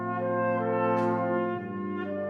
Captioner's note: none